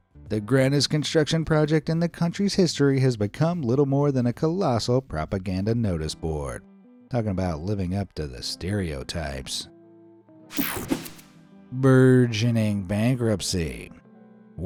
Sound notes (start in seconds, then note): 10.5 graphics whooshing